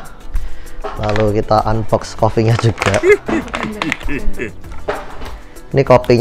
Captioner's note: chuckles